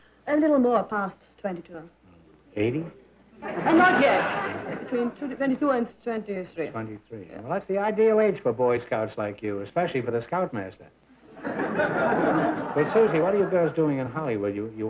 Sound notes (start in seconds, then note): 11.3 laughter